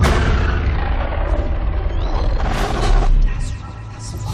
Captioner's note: distorted sounds; whispering